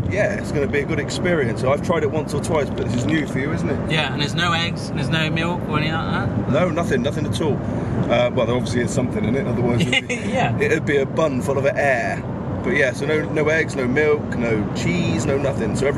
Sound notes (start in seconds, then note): 9.9 laughs